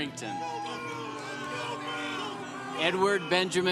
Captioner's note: congregation applauding